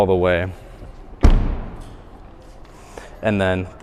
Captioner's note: door closes